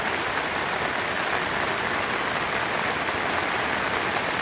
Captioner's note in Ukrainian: оплески